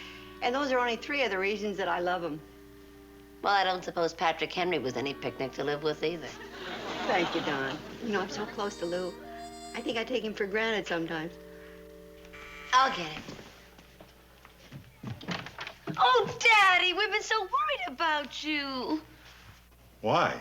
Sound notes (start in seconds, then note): 12.3 buzzing